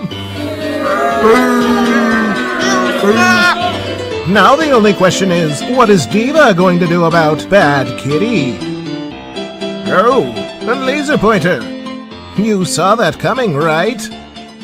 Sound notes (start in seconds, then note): 0.0 crowd boos